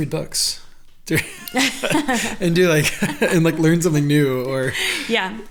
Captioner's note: laughs